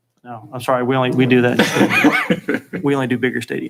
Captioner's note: chuckling